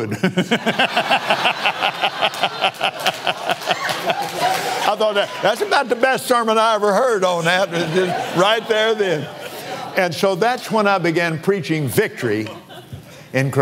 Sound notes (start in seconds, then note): 5.1 laughs